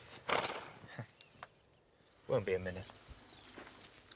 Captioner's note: horse snorts